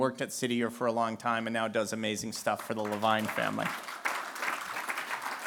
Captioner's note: applause